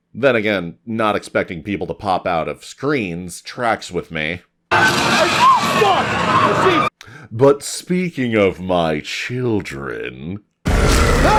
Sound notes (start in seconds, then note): 4.7 scream